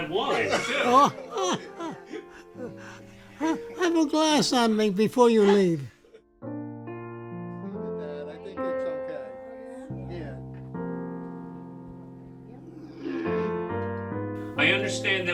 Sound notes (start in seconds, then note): 2.8 family laughs; 7.2 lighthearted piano music